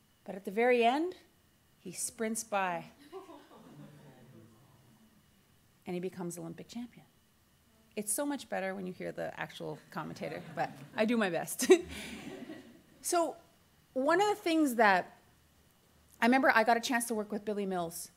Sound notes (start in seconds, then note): 11.6 laughs